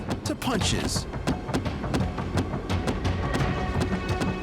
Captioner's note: continuous thuds